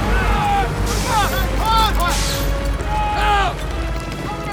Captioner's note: yelling